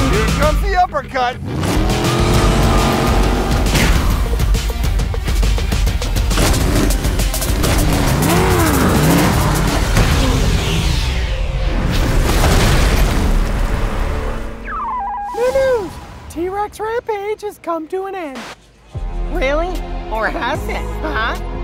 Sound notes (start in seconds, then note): 0.0 engines revving; 8.2 engines revving; 12.1 building crashing; 14.6 beeping